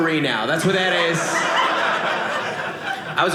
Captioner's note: audience laughing